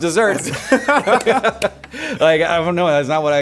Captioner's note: laughing